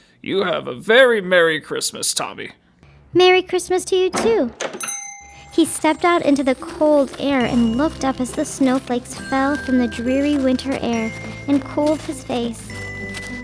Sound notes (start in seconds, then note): 4.2 bell dinging; 4.6 soft Christmas music